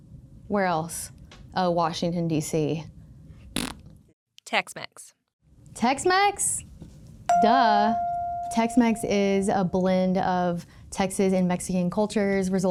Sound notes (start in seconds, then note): 3.5 blows raspberry; 7.3 chime pings